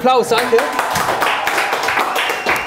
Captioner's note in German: Applaus